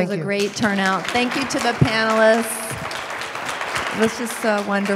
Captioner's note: applause